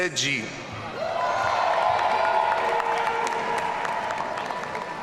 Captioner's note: audience cheering